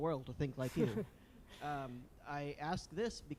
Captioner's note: laughs